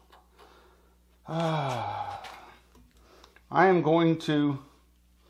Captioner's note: sigh